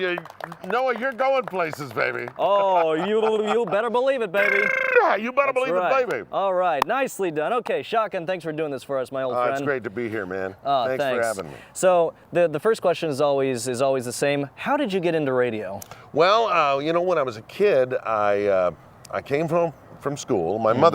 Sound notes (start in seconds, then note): 4.3 trills